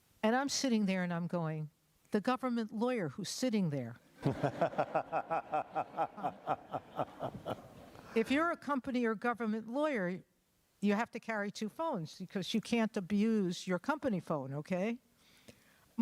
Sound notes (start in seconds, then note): 4.2 laughter